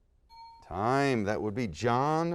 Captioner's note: bell dings